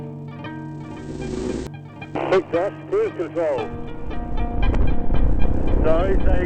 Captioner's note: voiceover